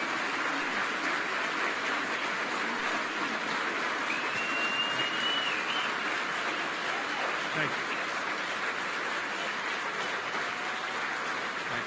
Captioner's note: applause